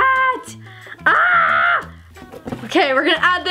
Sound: screams

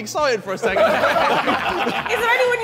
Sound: Sidemen laughing

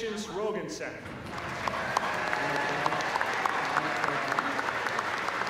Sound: applause

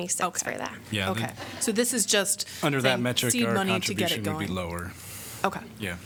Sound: laughter

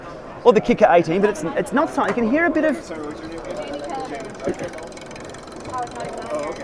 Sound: ticking noise

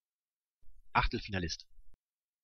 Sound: fast Pronunciation

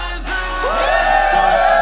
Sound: cheer

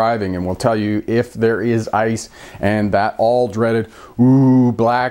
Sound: ohhhh

